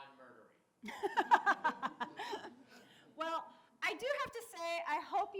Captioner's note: laughs